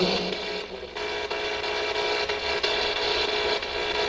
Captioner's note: static buzzing